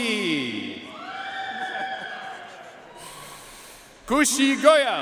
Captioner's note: audience cheering and applauding